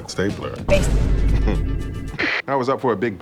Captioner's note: Holt majestic chuckle